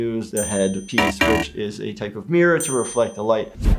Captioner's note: buzzer beeps